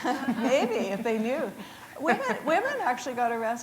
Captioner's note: chuckle